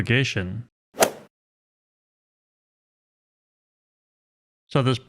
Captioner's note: golf ball hit sound effect